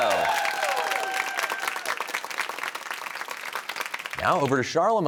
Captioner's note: cheers and applause